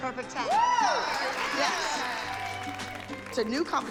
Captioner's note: cheering and applause